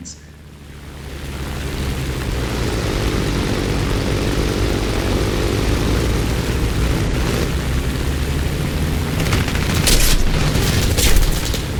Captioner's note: aircraft Engines ,Gunfire, Flying Sounds